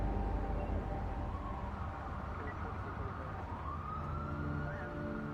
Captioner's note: police sirens echo